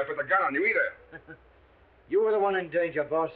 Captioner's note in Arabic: جاك يضحك